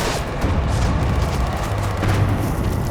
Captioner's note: gunfire